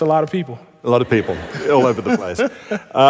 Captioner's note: laughter